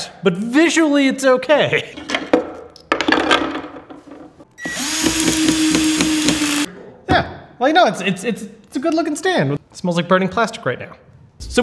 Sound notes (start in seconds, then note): 2.0 pieces crash; 2.3 laughs; 4.6 electrical drill buzzing